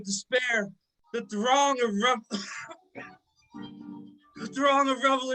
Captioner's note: coughs